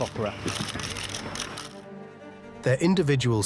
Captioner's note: cameras flashing